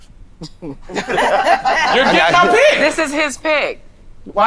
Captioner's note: all laugh